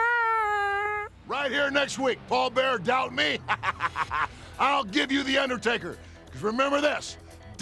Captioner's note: laugh